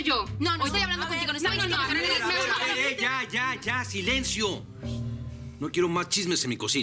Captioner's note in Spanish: Hablan al unísono